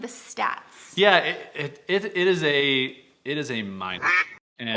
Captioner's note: duck quack